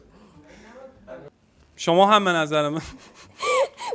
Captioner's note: laughing